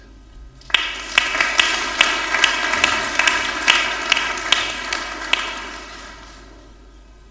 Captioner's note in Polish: oklaski